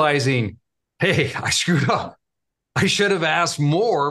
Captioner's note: laughing